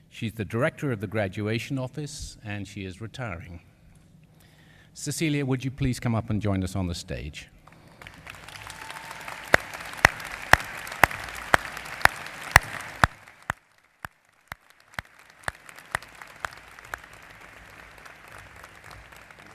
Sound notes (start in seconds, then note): 7.6 applause